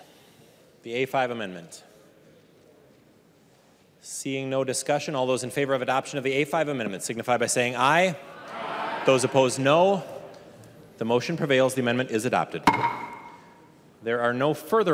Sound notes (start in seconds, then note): 8.3 chorus of ayes